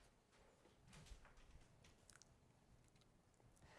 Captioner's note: none